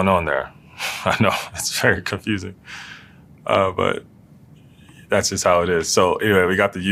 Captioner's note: laugh